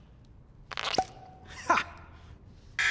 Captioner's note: cork popping